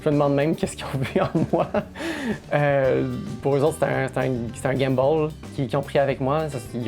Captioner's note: laughs